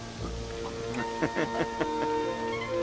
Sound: laughing

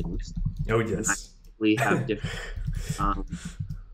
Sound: laughing

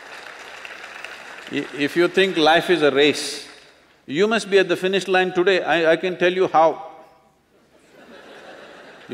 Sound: applause; laughter

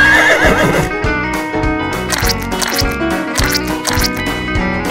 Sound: Unicorn neighing sound; caterpillar squishy sound; guinea pig sound

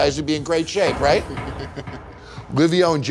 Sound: laughs

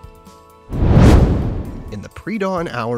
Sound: air whooshing

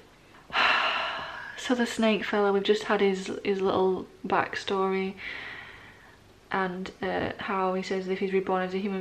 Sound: sigh

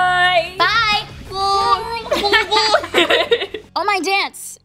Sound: tries doying, both laugh

